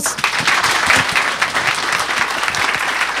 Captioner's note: clapping